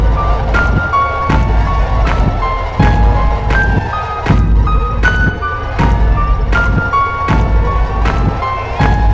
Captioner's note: loud footsteps in rhythm with heavy pulse; intense horror music; screams